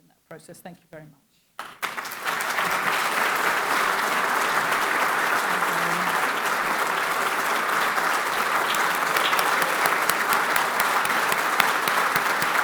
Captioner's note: clapping